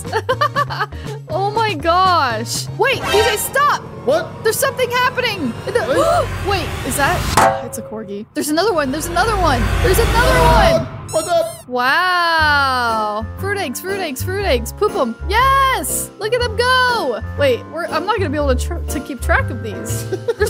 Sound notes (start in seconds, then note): 0.0 chuckles; 5.6 gasps